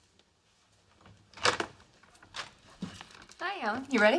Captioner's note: door opens